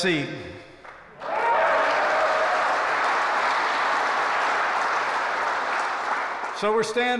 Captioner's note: applause